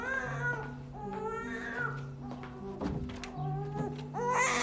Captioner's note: baby crying; crying continues